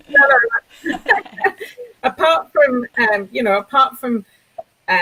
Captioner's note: both laughing